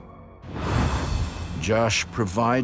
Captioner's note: whooshing